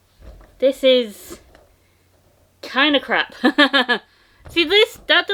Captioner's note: laughter